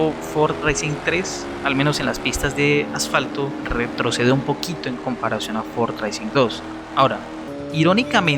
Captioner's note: asphalt tracks